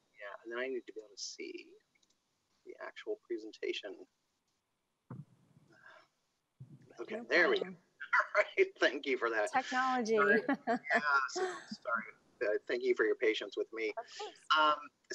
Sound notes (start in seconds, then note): 8.1 laughing; 8.1 laughs